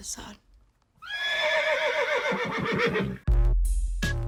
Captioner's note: neighs